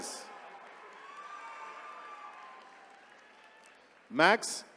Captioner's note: attendees cheering